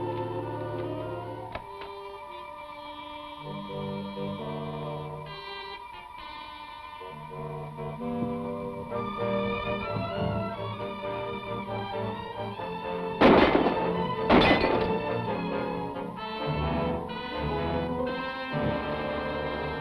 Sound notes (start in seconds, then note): 2.1 intense music continues; 13.2 gun blasting; 16.0 suspenseful music